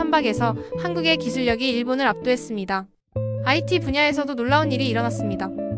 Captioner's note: Korean language being spoken